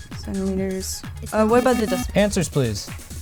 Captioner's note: buzzer